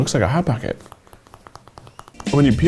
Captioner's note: tapping